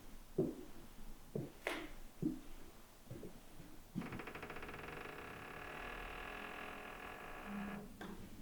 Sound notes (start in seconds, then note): 3.9 wood creaking